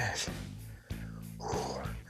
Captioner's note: sighs